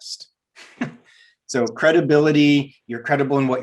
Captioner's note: laughs